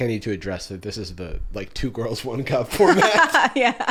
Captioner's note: laughing